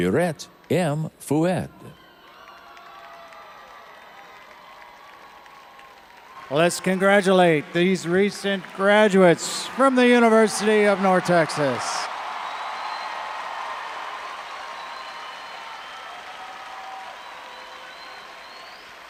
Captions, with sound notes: Let's congratulate these recent graduates from the University of North Texas. (all applauding and cheering)